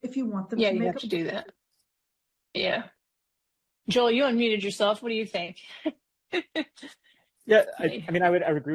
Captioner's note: laughs